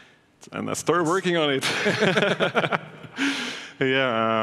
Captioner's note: laughs